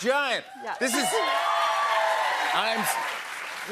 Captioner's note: cheers and applause